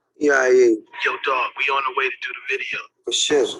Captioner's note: male Voice